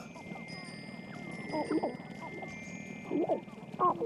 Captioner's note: clucking, rattling